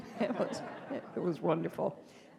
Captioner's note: audience laughing